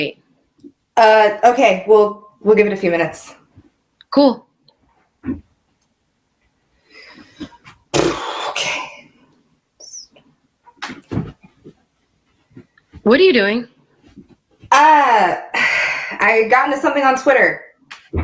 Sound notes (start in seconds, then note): 8.0 sighs and flutters lips; 15.0 sighs